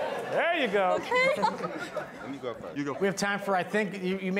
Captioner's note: all laughing